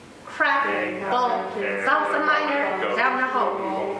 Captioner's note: all murmuring